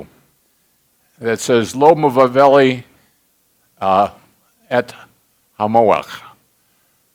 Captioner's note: speaking Hebrew